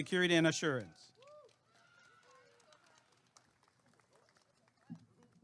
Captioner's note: applause and cheering